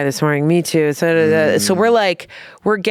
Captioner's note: gibbering